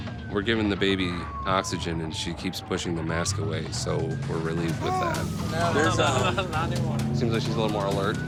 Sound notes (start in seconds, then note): 4.8 baby fussing; 4.8 chuckling